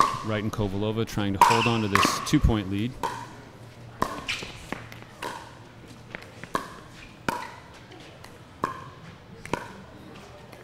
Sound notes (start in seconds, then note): 4.4 ball bouncing